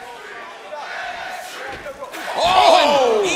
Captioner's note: crowd cheering